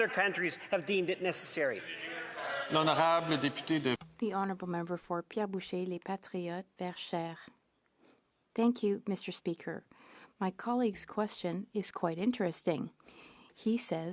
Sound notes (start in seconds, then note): 6.9 speaking in French